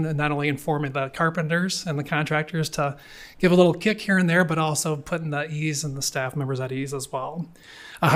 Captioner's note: none